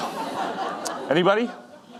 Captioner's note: audience laughing